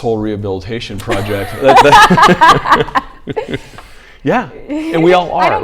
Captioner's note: both laughing